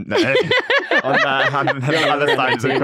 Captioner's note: everyone laughs